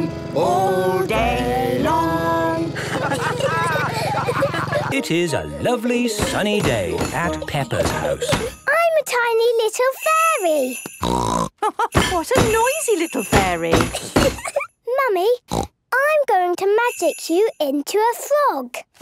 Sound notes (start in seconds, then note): 11.0 snort; 11.5 laugh